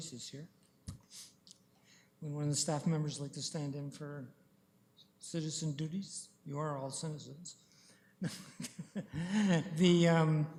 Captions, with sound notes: Not a lot of choices here. Any of the staff members like to stand in for citizen duties--you are all citizens [chuckles].